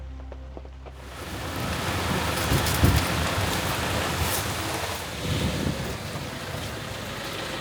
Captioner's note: rain falling